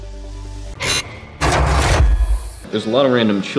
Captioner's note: screeching